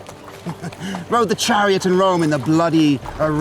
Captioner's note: chuckles